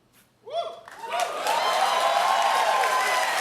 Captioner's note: cheers and applause